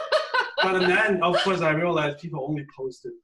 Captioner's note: laughs